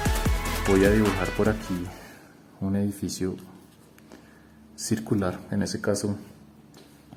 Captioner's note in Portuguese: em espanhol